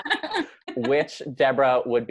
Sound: laughing

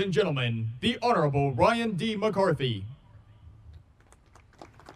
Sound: audience applauding

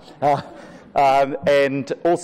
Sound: laughter

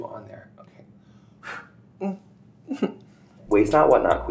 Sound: blowing

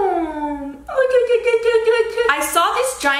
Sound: cooing

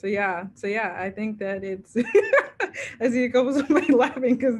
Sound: laughs

